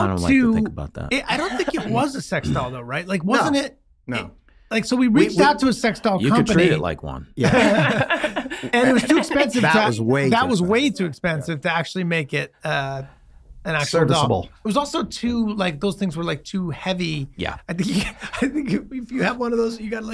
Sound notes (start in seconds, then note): 7.4 all laughing